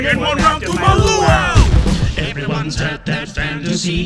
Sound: bomb explodes

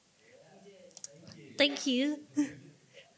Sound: laughs

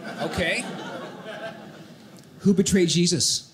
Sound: audience laughing

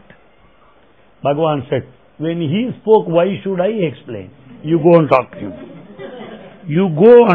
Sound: laughter

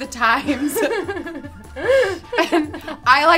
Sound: both laughs

